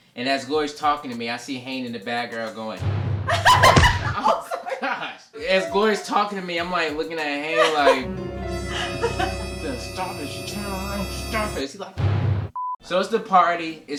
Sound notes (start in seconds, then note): 3.3 laughs; 3.4 smack; 7.8 threatening music